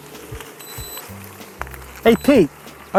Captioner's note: beep